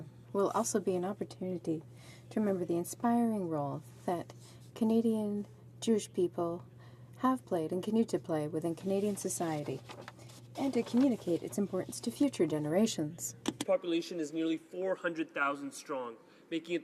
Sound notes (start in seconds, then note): 4.1 speaking in french